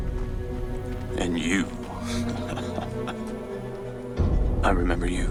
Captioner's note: chuckles